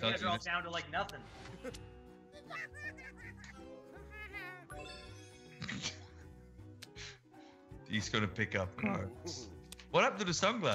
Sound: laugh

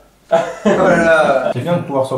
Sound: laughes

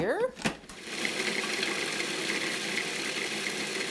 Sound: mixer whirring

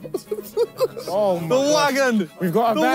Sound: laughing

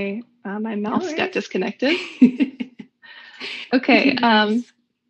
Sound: laughs

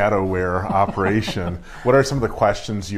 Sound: laughing

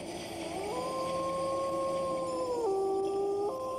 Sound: wolf howls

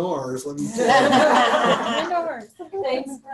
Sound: laughter

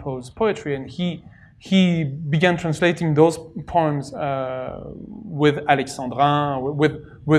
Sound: french

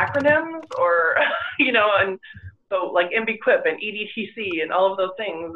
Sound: chuckles

